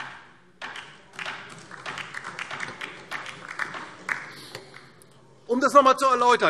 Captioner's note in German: Beifall DIE LINKE